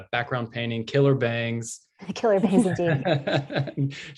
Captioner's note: laughter